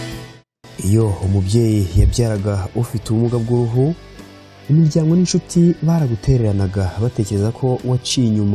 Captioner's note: soft music; speaking in Kinyarwanda